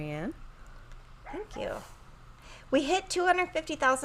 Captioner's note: Super Piggy barking